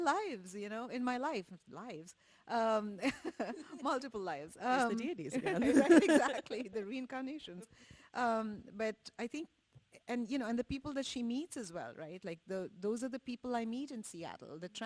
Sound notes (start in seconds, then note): 3.1 laughs; 5.4 laughs